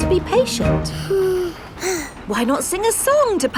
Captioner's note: both sigh